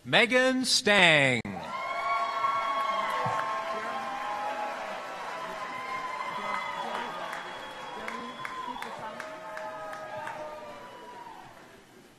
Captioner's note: applause